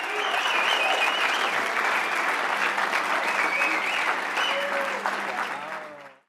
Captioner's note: audience cheering; applause